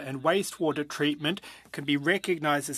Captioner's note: speaking French